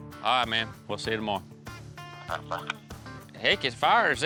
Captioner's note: on phone